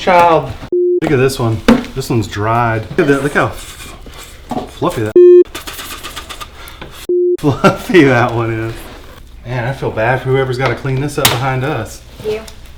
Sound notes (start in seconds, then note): 0.7 beep; 5.1 beep